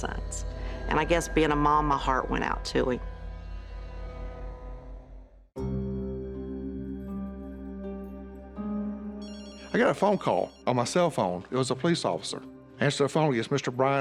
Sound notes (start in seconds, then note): 9.2 phone rings